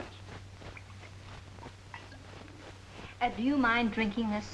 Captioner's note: liquid splashing